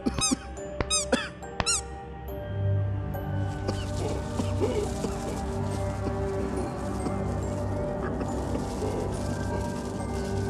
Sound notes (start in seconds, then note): 0.2 pats on back; 0.8 clown squeaks; 2.4 music intensifies; 3.6 coughs